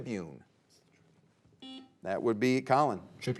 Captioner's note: players whispering; buzzer beeping